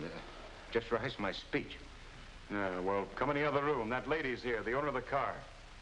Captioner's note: Eddie muttering